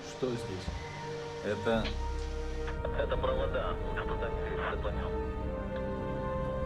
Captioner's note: speaking in foreign language